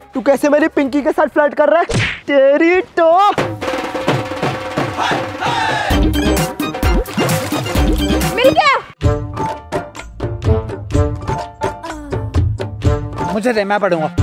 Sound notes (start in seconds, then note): 3.7 quarreling